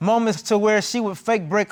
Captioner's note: none